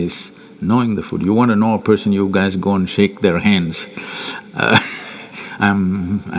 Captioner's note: laughs